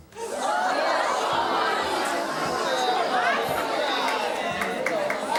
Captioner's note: audience murmurs